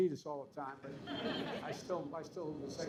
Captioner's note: laughter